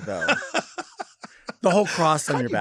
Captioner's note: Lady Bunny laughs